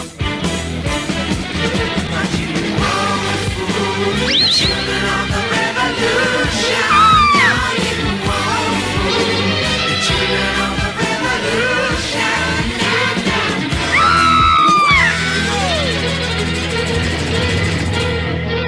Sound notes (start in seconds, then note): 6.8 Sweet Polly Purebred Screams; 13.8 Sweet Polly Purebred Screams